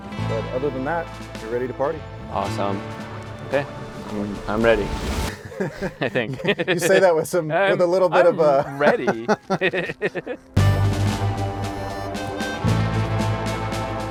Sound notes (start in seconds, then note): 5.3 chuckling; 8.3 both laughing; 10.6 tense music